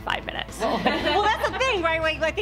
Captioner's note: laughter